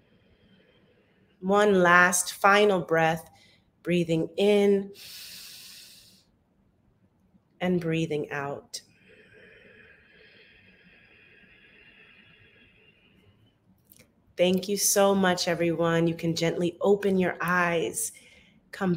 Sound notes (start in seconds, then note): 5.0 inhales; 8.9 exhales